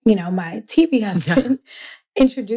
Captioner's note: laughs